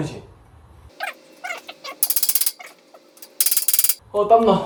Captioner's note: hammering 5555